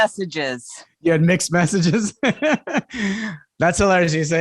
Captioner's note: laughs